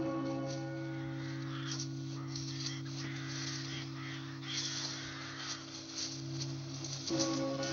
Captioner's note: birds Squawking In Distance; tolling Continues